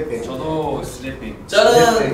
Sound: speaking Korean

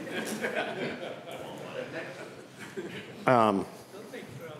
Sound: laughter

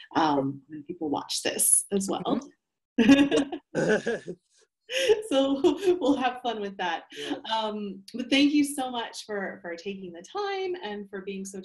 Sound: laughs

